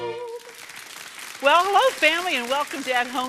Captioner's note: clapping